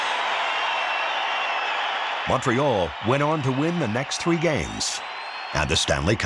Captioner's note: crowd cheers